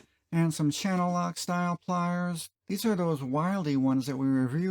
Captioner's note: none